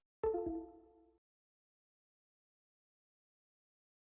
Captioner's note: computer beeps